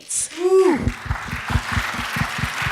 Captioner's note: applause